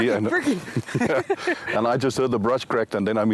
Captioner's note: laughing